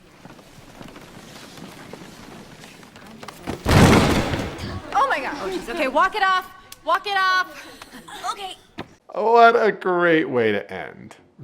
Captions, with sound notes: (footsteps) (person crashes) - Oh, my God. Okay, walk it off, walk it off, okay. - Oh, what a great way to end,